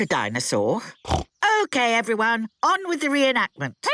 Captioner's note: snorts